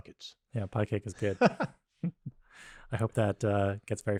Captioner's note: laughs